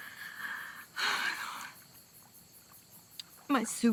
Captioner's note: sighs